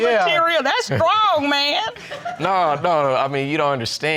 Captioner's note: chuckles